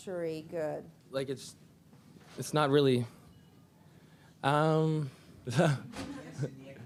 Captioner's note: chuckles